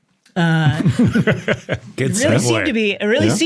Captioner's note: interviewees laughing